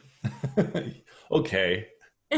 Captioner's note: laughs